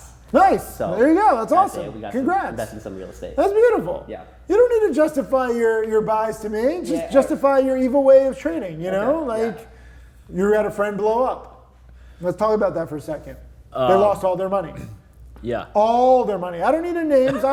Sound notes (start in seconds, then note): 14.7 clears throat